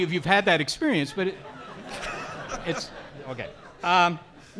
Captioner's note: audience laughing